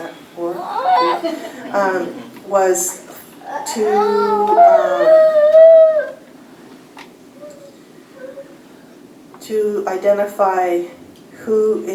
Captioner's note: laughter